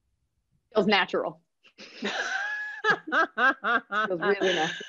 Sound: laughter

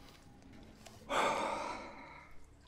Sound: sighs

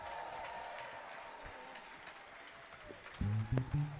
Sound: audience applauding

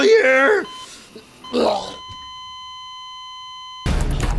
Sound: dying choke, flatlining

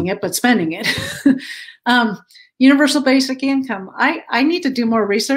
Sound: laughter

